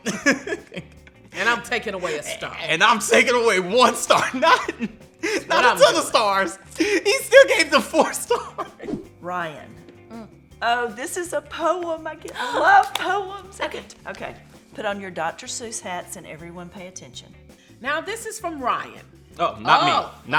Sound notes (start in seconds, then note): 3.8 laughs; 12.2 claps